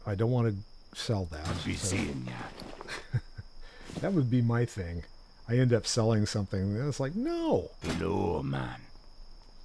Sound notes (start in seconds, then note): 2.7 laughs